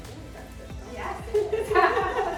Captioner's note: laughing